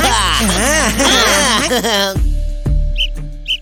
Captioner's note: whistles